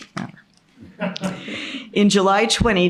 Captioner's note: laughter